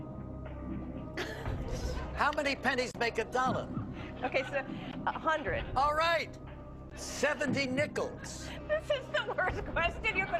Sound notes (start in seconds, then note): 1.2 chuckles